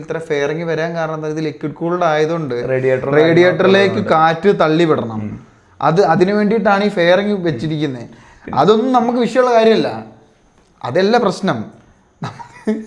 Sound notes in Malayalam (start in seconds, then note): 5.6 തൊണ്ട ശരിയാക്കുന്നു